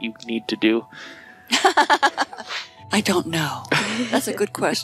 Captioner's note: laughing